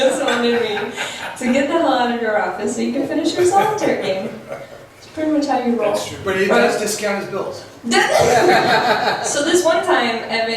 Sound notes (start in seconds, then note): 7.1 voiceover; 8.0 laughs